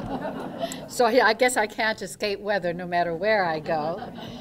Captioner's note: laughter